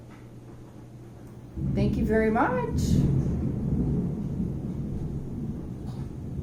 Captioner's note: thunder